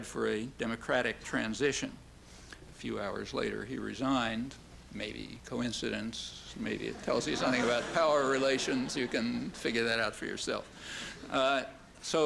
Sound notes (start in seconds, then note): 8.6 laughter